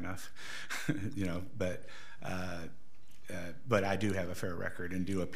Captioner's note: laughs